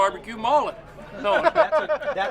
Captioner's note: laughs